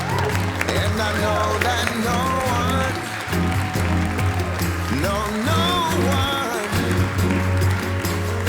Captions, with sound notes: And I know that no one. *the guests cheer in happiness and joy* No, no one.